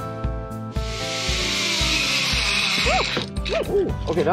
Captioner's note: wire zipping